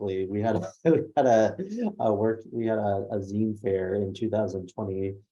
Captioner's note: laughs